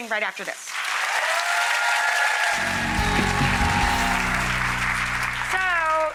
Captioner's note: audience cheering and clapping